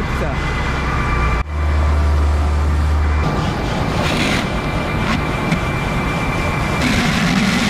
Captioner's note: engine noise